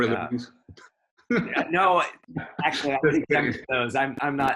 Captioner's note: chuckles